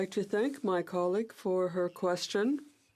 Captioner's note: speaking French